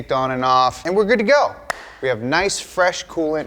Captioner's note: claps